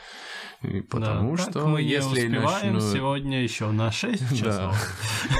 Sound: imitates Krasimir

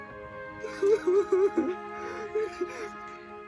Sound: sobbing

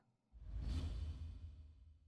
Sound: swoosh

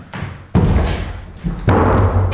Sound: door bangs

